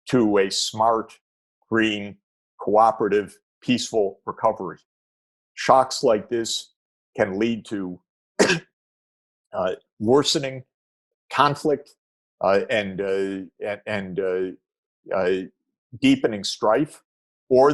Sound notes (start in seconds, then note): 8.4 coughs